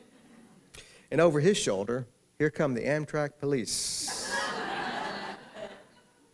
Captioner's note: laughter